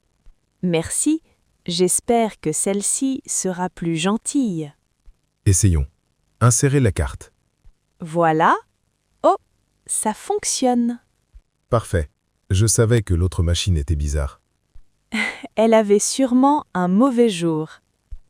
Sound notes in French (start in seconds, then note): 11.3 rire